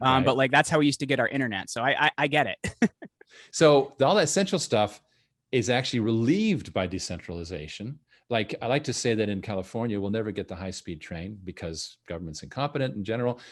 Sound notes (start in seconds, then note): 2.6 laughing